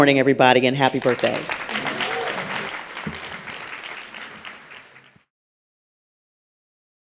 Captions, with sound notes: everybody, and happy birthday. [Applause]